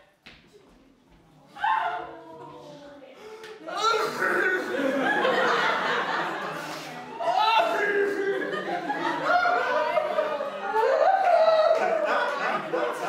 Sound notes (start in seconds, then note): 3.9 Peter sobbing noises; 7.0 more violent sobbing noises